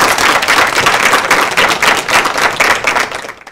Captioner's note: applause